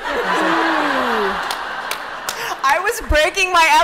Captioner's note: laughter